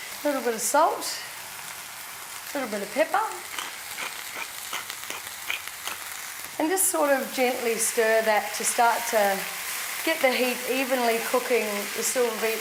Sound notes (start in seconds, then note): 3.4 pepper grinder cranking